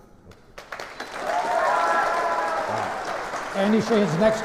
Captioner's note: applause